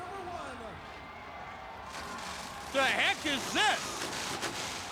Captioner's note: motorcycles revving